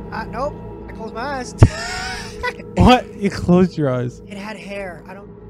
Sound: guilty Laughs

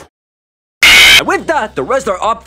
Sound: fnaf screech

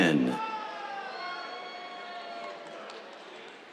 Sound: cheers

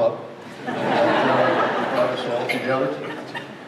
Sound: crowd laughs

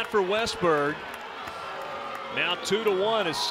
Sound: crowd booing

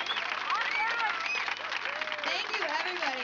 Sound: audience applauding

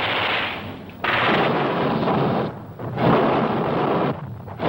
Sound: fire blazing

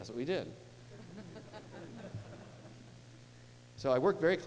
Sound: laughing

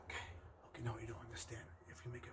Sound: whispering

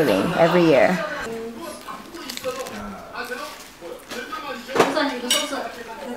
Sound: speaking foreign language

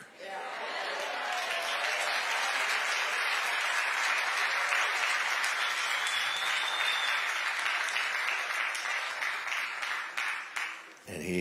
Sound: audience exclaiming and applauding

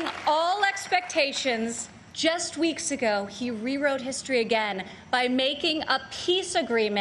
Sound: applause

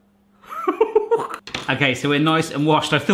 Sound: laughing

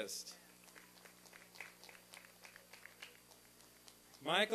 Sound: applause and cheering

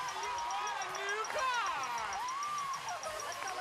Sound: audience applauding

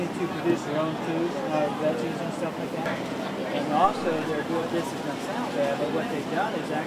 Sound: crowd

